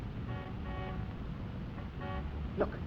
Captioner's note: car horn